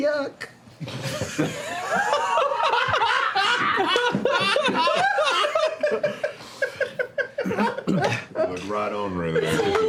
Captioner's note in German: Gelächter